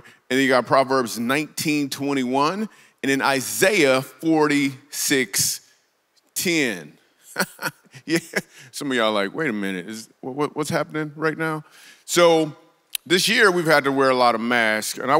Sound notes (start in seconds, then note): 7.3 laughs